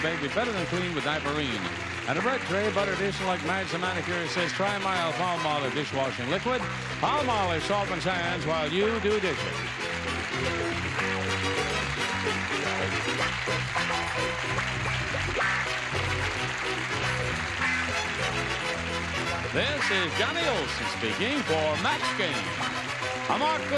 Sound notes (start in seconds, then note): 9.5 upbeat music; 10.5 applause